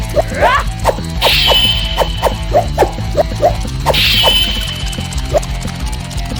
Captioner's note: Xu Xang shouting; sword clanging